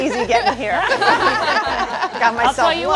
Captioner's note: all laughing